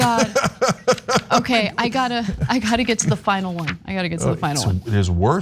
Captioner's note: laugh